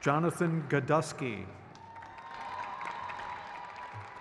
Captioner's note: crowd cheers